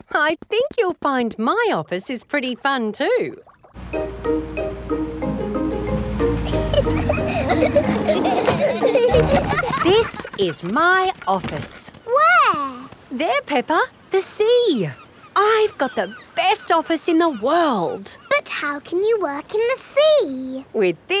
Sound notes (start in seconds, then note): 6.3 children giggling